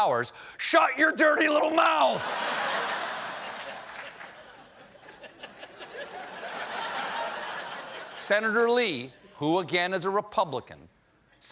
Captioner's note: laughter